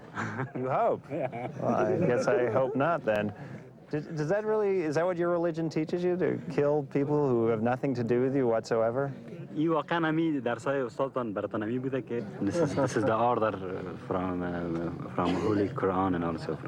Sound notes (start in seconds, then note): 9.4 men speaking in foreign language